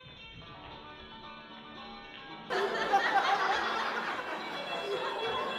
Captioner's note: soft music; laughter